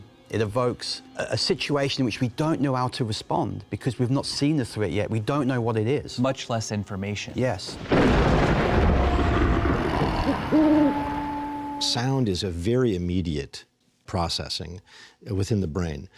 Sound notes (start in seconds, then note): 7.7 thunder crashing; 9.7 owl hoots; 9.8 animal growls